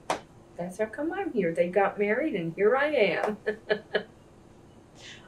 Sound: laughs

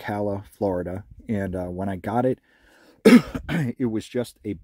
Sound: coughs

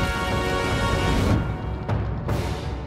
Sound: none

